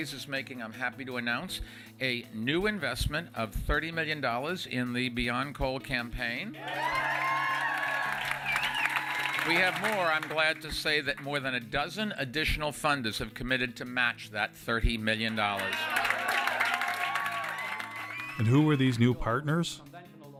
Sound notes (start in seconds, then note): 6.6 crowd cheering and clapping; 15.3 clapping and cheering